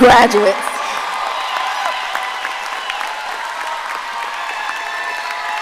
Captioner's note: audience applauding and cheering